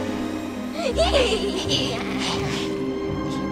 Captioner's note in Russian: ~Ха-ха-ха!~